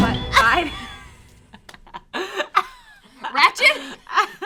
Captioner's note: all laughing